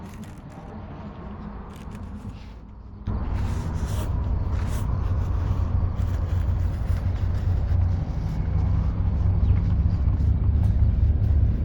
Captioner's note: wind blowing